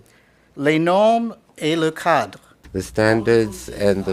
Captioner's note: speaking in French